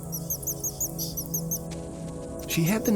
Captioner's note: bird warbles